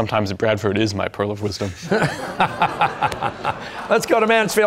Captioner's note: audience laughter